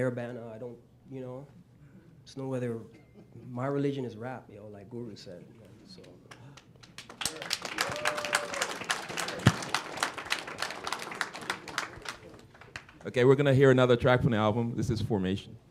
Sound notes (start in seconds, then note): 10.2 applause